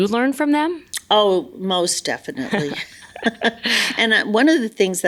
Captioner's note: laughs